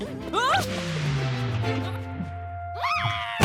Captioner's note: shouts; shrieks; thud